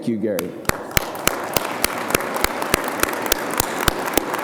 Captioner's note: audience applause